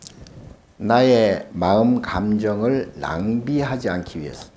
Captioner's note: speaking Korean